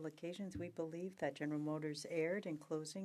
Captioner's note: speaking french